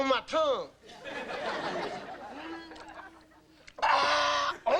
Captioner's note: audience laughing